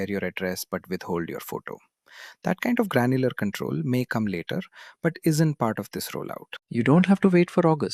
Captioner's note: thoughtful